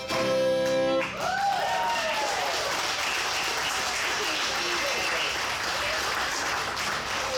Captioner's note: audience applauds; audience cheers